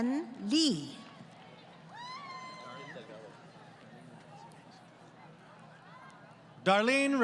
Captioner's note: crowd Cheering